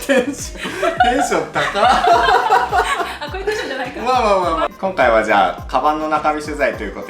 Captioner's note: laughs